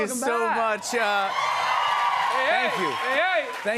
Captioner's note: cheers and applause